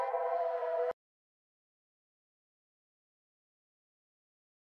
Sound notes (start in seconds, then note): 1.0 music stops